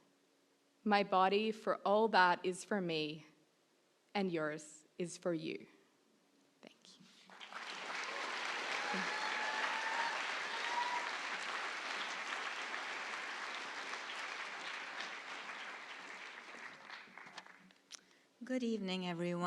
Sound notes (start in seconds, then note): 7.2 applause